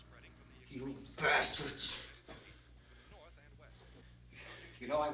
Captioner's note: murmuring